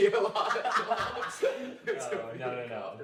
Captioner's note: laughter